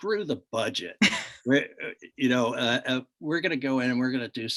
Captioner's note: chuckles